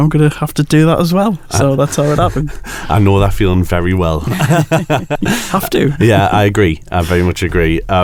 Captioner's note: laughs